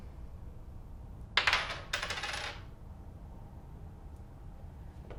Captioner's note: tossing coin on desk